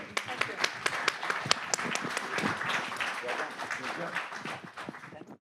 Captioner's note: audience applauding